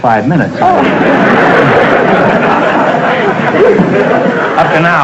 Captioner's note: audience laughter